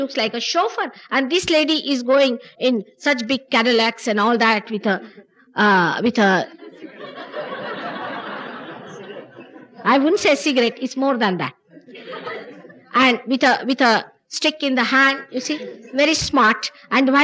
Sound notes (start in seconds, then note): 6.4 laughter; 12.8 laughter